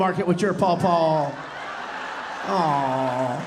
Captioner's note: audience laughing